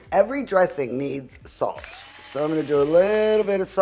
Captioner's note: grinder whirring